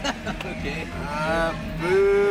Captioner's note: people laughing